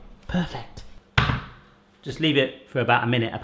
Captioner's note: pot thuds